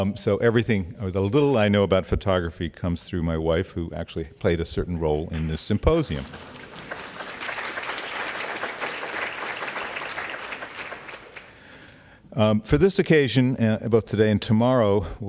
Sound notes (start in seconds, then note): 5.7 audience applauds